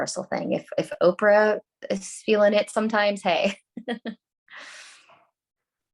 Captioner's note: laughs